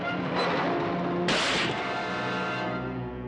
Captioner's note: crashing